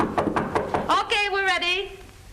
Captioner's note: knocking at door